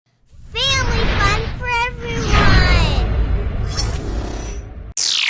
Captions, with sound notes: - [Kid Voice] Family fun for everyone!